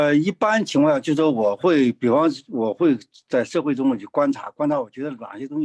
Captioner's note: speaking in foreign language